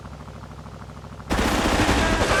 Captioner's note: gun firing